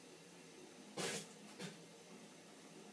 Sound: spits in distance

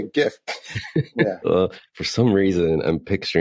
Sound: laughs

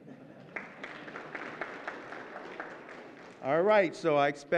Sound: audience clapping

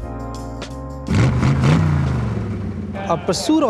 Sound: motorcycle engine revving

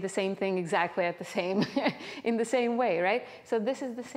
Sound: chuckles

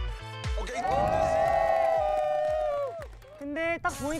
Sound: scream~

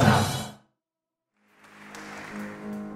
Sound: audience applauding; gentle music

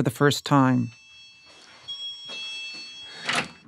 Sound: hotel door bell ding in distance

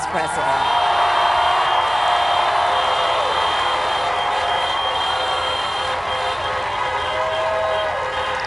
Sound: crowd applauds

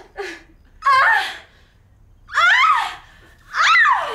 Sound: girls laughing; girl screaming

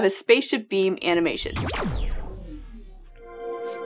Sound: blasting sound; digital chord

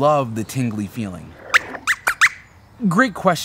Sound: squeaks squeaks

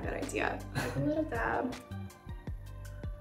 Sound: chuckles lightly; soft music

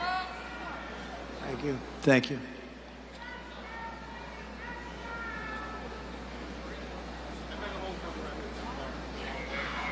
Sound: crowd yells

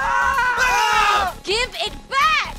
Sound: Grant and Cooper scream; witch's servant screams

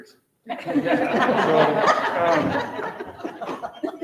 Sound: members laughing

